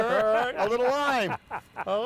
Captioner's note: laughing